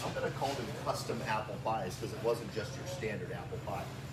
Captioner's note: none